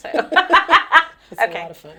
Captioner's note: both laugh